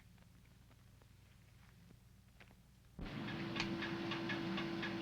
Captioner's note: machine whirring